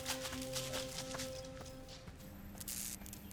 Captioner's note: pensive music; leaves rustle; light buzzing